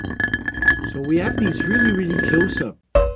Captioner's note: rattle sounds